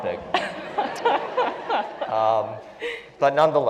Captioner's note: laugh